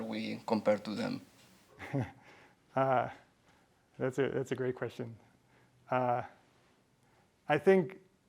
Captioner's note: chuckles